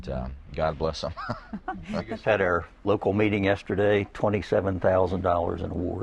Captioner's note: laughter